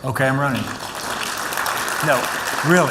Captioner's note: applause